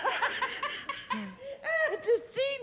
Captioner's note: laughter